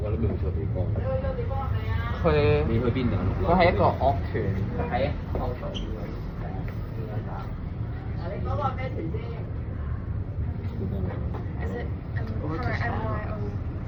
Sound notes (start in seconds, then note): 2.9 Cantonese